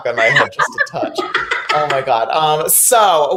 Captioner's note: laughing